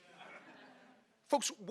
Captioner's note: audience laughing